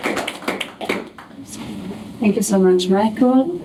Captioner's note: applause